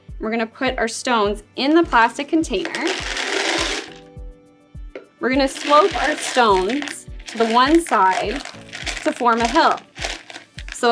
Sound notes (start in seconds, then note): 3.0 stones clinking into container